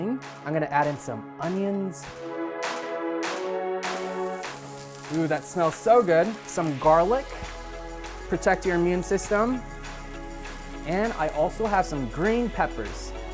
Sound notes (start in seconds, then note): 3.0 upbeat music; 4.8 pan sizzling